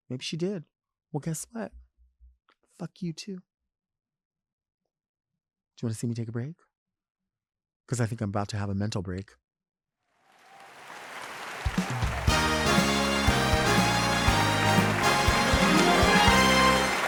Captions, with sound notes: Maybe she did. Well, guess what? Fuck you too. Do you wanna see me take a break? Because I think I'm about to have a mental break. (audience applauding) (bright music)